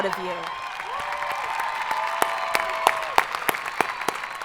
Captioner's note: audience applauding